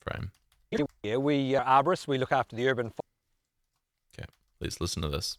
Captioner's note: video skipping forward and back